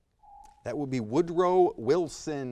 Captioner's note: timer dings